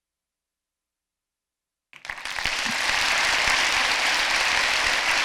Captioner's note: applause